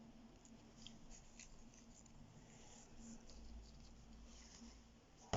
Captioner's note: feather brushes quietly